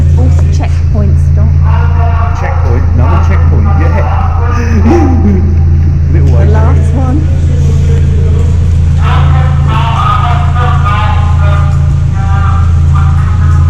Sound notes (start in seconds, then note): 8.6 talking over radio